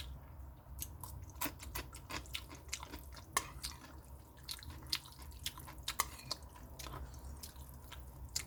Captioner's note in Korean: 오이도 씹는중, 쩝쩝, 잘도 먹네